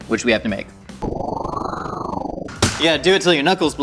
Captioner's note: wind whirling